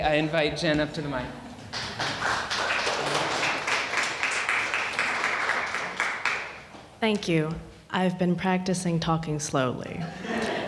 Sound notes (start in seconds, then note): 1.6 audience applauding